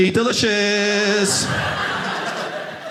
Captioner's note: audience laughing